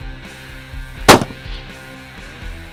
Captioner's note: gun Shot